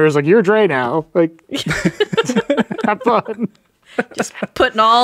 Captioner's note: all laughing